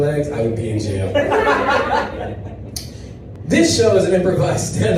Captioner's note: audience laughs